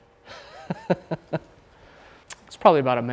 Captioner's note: laughing